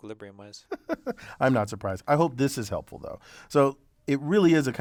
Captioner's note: laugh